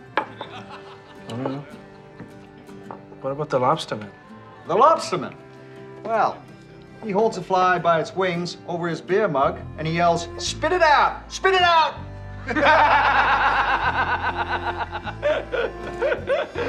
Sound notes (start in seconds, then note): 12.4 laughter